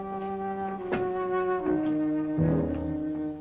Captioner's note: door clicks